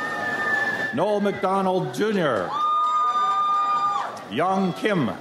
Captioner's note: audience cheers